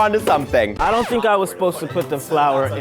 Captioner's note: record scratch